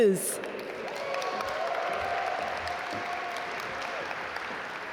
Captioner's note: audience applaud